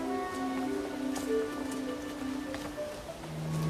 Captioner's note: running water